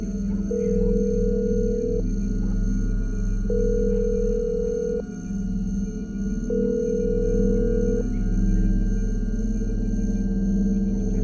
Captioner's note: line ringing